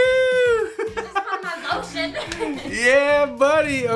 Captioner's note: laughs